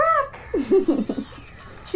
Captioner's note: laughter